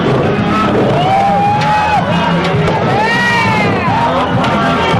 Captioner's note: cheering